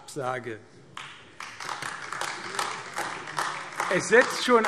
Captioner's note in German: Beifall AfD